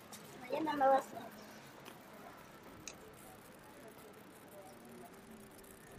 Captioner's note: visitor speaking foreign language